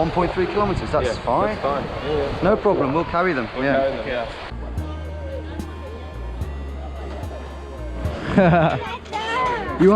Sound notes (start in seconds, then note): 4.5 gentle upbeat music; 8.2 laughing; 8.9 speaking in a foreign language